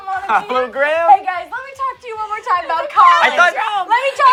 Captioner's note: laughing